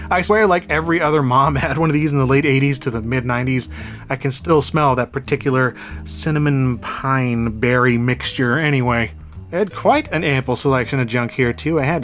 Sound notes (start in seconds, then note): none